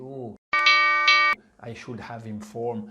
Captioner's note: alarm sound